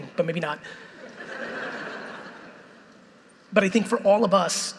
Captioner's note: audience laughing